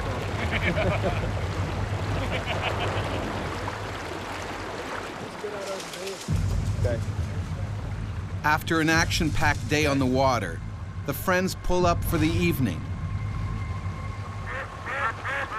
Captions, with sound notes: (laughing) - [Voiceover] After an action packed day on the water, the friends pull up for the evening.